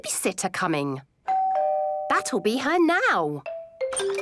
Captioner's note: doorbell rings